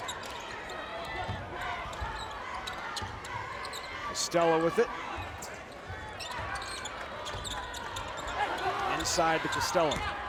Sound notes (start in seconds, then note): 0.4 cheerleaders chant